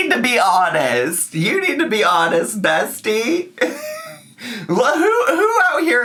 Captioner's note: laughs